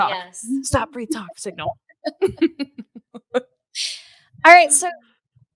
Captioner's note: laughing